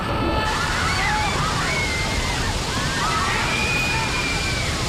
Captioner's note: screaming